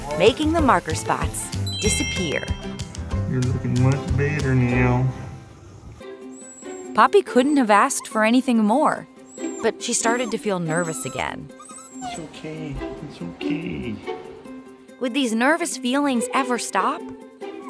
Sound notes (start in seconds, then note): 11.2 whimpering